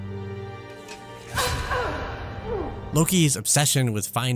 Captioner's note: Loki’s mother grunts in pain